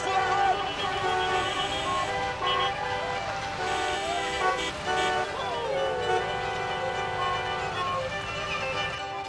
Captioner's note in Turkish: Korna Çalıyorlar